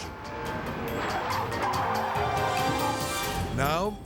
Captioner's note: tire screeching; tense music